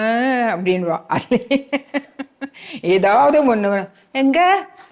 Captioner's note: laughs